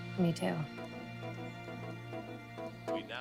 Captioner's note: phone vibrates